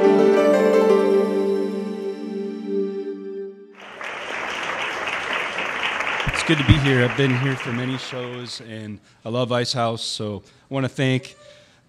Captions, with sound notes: (bright music) (audience applause) - It's good to be here, I've been here for many shows and I love Ice House, so I wanna thank